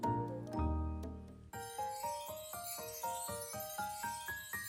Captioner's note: chimes ring